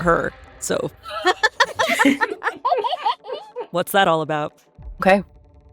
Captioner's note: EVERYONE laughs